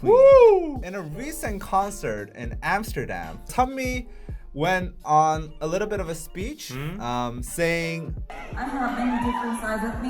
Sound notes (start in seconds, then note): 0.0 wooo; 6.4 mhmmm